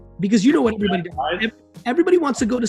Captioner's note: speech distorted by connection